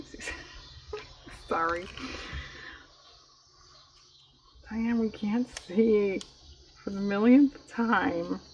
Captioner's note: laughs